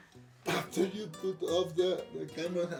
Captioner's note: laughs